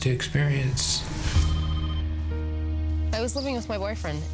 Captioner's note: phone ringing